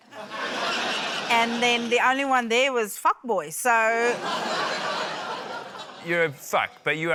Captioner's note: laughter; laughter